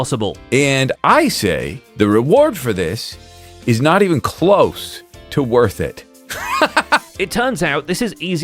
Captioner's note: laughs